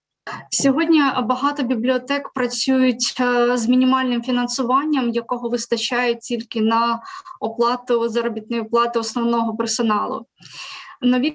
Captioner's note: foreign Language